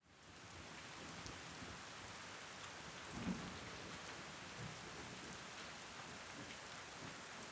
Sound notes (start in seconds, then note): 0.2 rain pattering